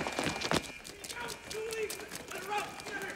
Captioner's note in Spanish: sirenas sonando